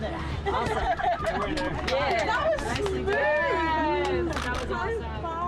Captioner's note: laughter